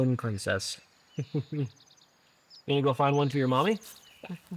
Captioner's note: chuckles